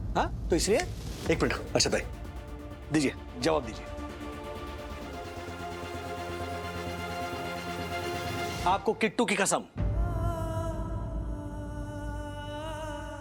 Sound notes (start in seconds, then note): 4.2 tense music playing; 9.9 poignant vocalisation